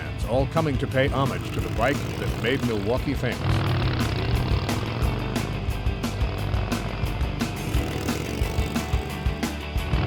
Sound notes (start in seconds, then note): 3.5 engine growling; 3.5 upbeat music